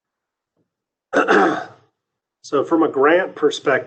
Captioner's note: clears throat